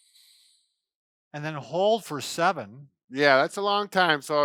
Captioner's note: inhales